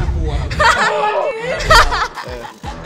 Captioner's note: laughs